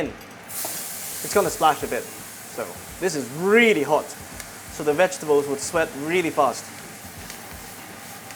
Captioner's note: sizzle